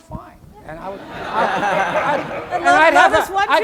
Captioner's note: laughter